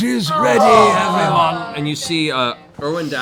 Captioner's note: groaning